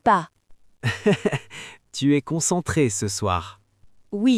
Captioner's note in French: rire